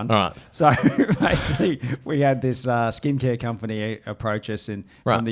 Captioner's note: laughs